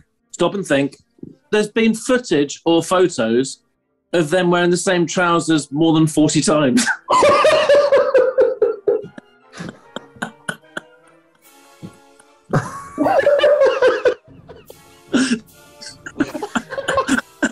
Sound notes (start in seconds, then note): 6.8 laughing; 9.5 quiet giggling; 12.5 laughter